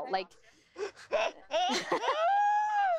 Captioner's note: laughter